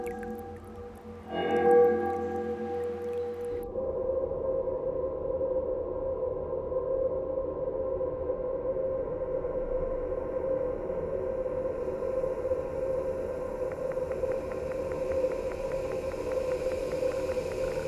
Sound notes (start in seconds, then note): 3.7 laboratory clicking sounds